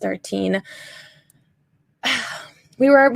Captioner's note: sighs